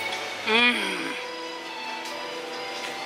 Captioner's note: groan of delicious delight